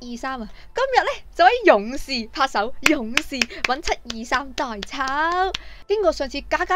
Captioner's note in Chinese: 拍手